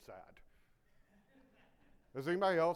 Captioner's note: audience laughing